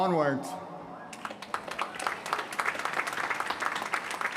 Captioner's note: applause